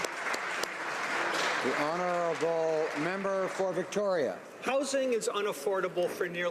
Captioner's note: applause